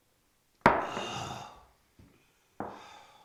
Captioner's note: grunts